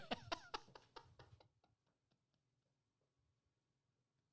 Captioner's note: laughing